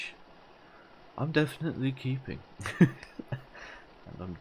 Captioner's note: laugh